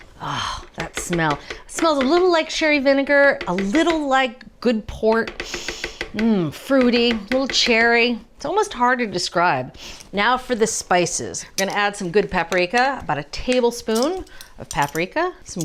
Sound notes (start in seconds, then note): 5.4 inhales deeply